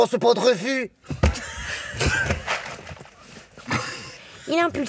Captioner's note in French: Rires